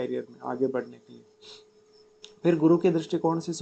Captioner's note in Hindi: नाक से की जाने वाली आवाज़